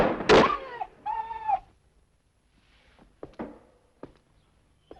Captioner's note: dog whining